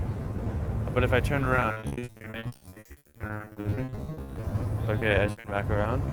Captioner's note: crackles